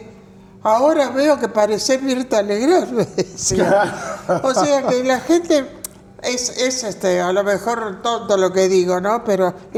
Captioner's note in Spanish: risas